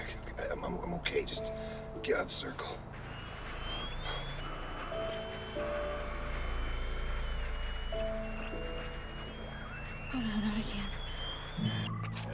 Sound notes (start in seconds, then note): 5.0 alarm; 11.8 whistle